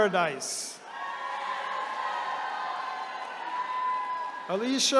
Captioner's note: attendees cheering